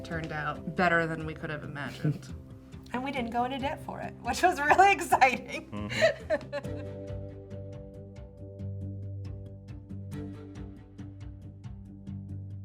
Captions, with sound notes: turned out better than we could have imagined and we didn't go into debt for it, which was really exciting. (laughs) (relaxed ensemble music)